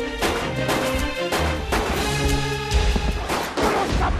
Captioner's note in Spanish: Disparos